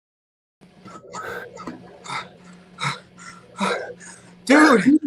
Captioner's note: Liam panting